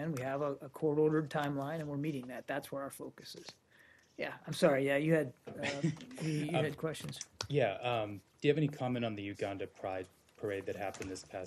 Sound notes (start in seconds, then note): 5.6 laughter